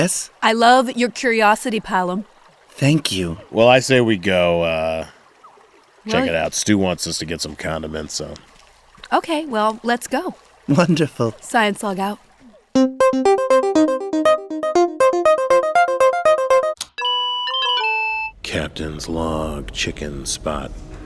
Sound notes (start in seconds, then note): 12.7 musical interlude; 15.8 high pitched electronic dinging